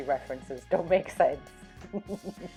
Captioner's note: laughing